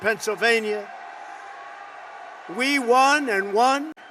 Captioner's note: applause